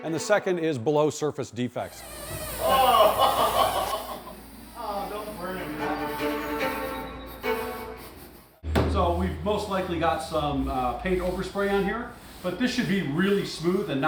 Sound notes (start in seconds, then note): 1.9 skin squeaking; 2.5 laughing